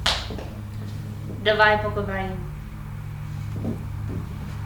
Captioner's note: speaks Russian